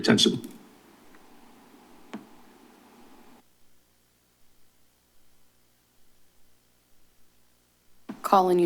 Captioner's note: silence